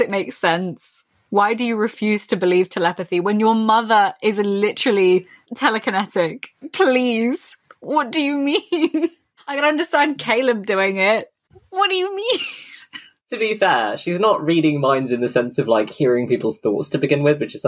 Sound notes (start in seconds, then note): 8.7 laughs; 10.9 laughing